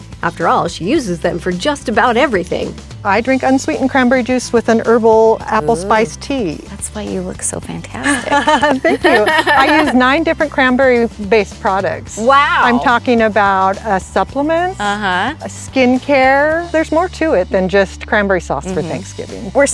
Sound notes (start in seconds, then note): 8.0 chuckles